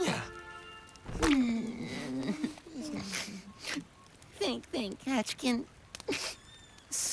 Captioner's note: sniffles; sniffle